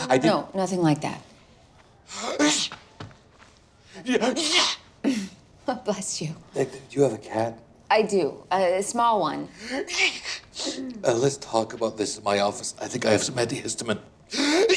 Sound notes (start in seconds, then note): 2.2 Peter sneezes; 10.0 Peter sneezes; 14.5 Peter sneezes